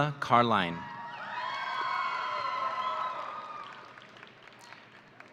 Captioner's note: audience cheering